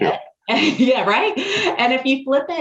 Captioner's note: chuckles